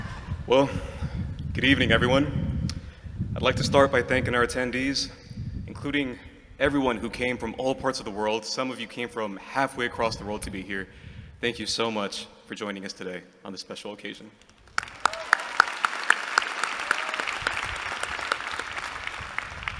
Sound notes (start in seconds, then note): 14.6 applause